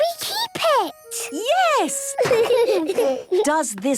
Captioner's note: laughter